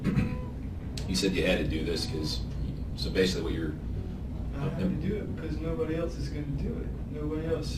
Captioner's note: clears throat